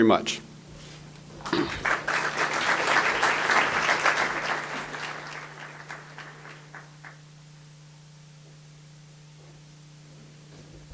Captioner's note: audience applause